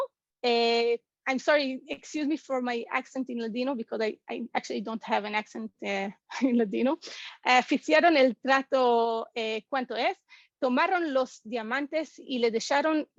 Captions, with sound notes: I'm sorry, excuse me for my accent in Ladino because I actually don't have an accent. Ladino. [Spanish]